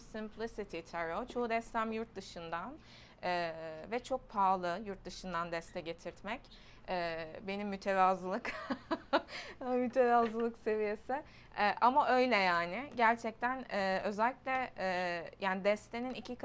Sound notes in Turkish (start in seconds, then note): 8.4 kahkaha